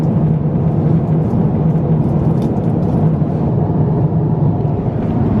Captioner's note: atmospheric cabin hum